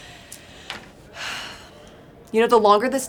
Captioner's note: sighs